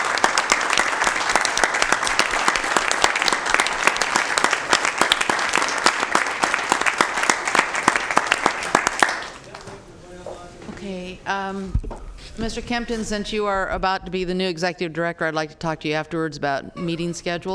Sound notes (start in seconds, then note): 2.4 applause